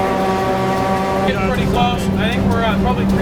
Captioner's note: steam Whistle